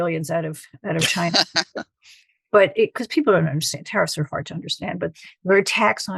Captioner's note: laughter